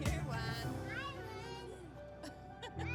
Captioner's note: laughs